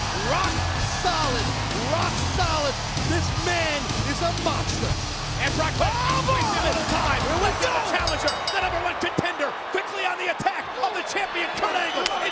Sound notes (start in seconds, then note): 7.6 bell rings; 8.3 audience booing